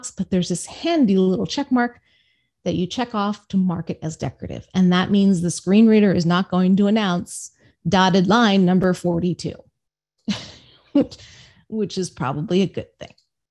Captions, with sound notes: but there's this handy little check mark that you check off to mark it as decorative. And that means the screen reader is not going to announce dotted line number 42, (laughs) which is probably a good thing.